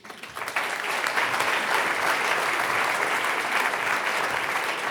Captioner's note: audience applauding